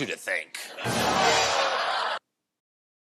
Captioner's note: laughter